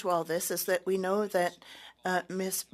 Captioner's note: speaking French